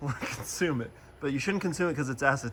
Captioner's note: laughs